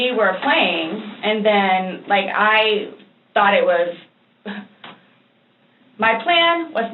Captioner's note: small laugh